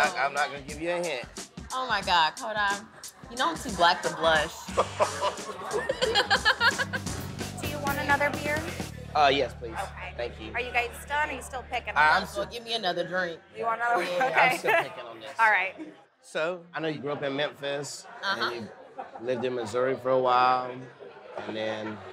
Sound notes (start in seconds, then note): 4.5 laughs; 14.4 chuckles